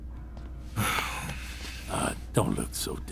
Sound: Chartrulean sighs

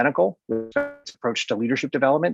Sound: distorted audio

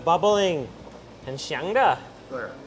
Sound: speaks in foreign language

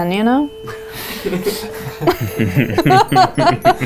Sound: laughing

